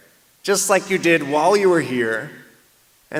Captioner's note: none